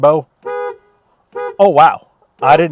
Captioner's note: car honks